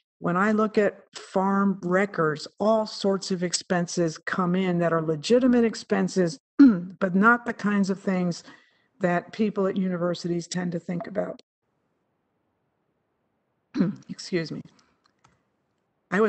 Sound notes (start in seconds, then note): 6.6 clears throat; 13.7 clears throat